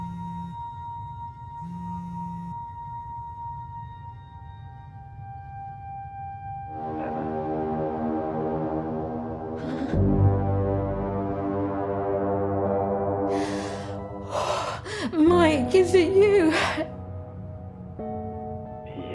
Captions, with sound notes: (tense music) (giggling) Oh Mike, is it you?